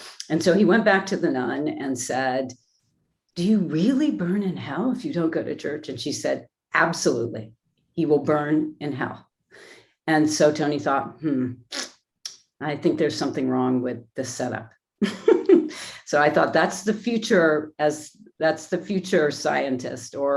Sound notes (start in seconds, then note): 11.7 sucks teeth; 15.0 chuckles